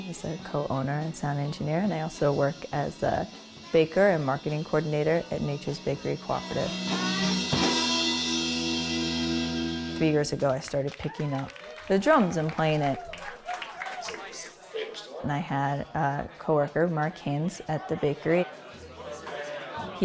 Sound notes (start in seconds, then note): 6.6 cymbals crash and resonate; 13.3 applause